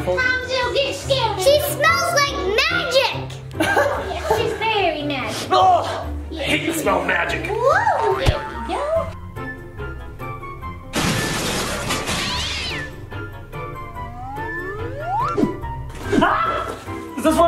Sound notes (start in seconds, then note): 3.8 man laughs; 11.0 crash, cats meowing